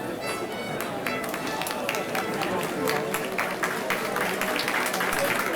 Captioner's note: group clapping